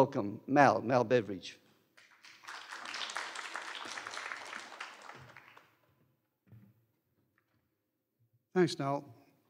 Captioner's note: applause